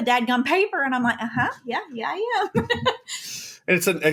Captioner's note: laughs